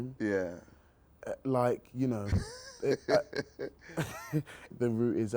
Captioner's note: laughs